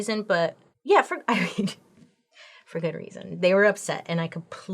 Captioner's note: chuckles